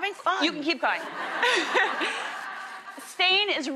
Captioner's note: laughs